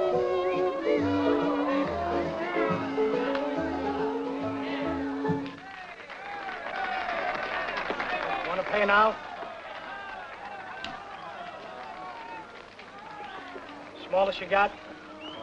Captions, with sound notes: (crowd cheering) - Wanna pay now? Small as you got.